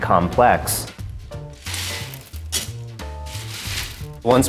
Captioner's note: beans rattling